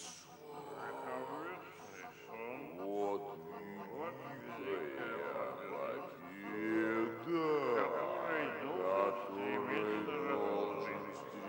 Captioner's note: voices slurred